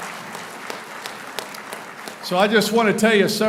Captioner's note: applauding